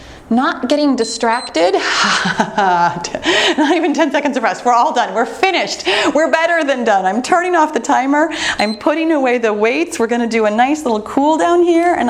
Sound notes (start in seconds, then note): 1.0 timer beeps; 1.7 chuckles; 8.6 timer turns off